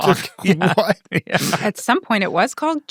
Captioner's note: people laughing